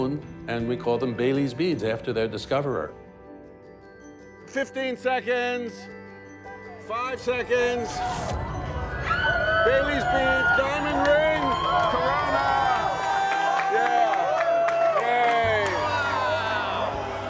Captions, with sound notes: And we call them Baily's beads after their discoverer. Fifteen seconds. Five seconds. (people cheering) Bailey's beads! Diamond ring! Corona! (cheers and applause) Yay! Wow!